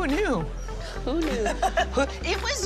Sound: laughs

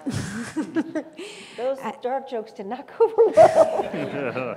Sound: laugh

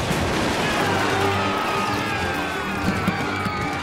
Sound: yelling

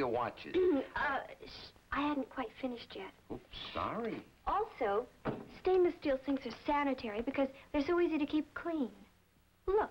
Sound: Mary Kay, clearing throat

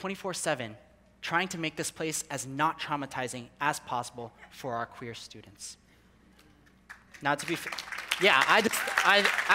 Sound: people clapping

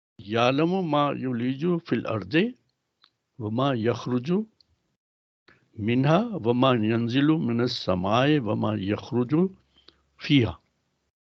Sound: recites arabic

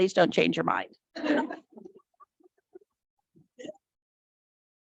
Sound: board laughs

